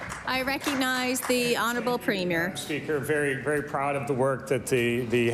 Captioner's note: applause